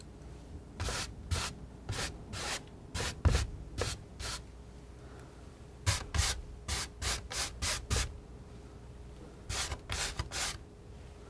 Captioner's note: scratching